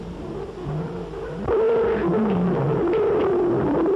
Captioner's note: screaming